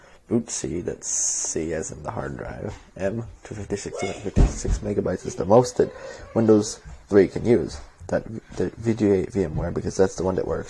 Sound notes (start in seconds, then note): none